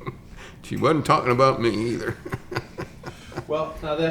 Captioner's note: chuckles